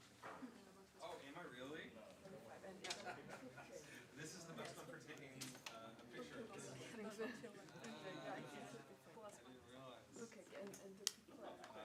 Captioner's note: indistinct conversation